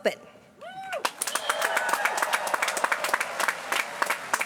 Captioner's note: applause